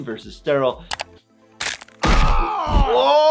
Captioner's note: crunching then thudding; Brian screams in pain